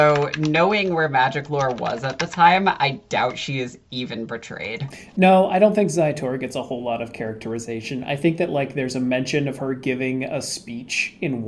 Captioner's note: the Keyboard of Research Clacks